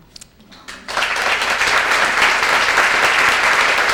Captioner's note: applause